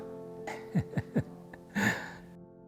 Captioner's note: giggling gently